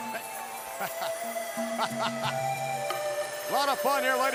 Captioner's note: group laughing